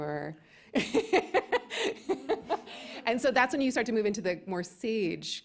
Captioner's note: laughs